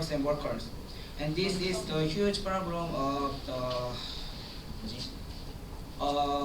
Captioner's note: sigh